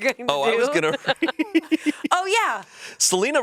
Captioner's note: laughs